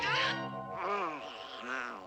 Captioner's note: groans